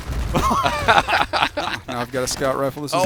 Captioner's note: laughter